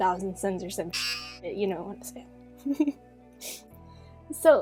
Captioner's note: hockey buzzer